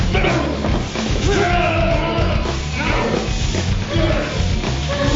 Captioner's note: grunting